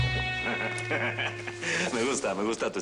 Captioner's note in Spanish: Risas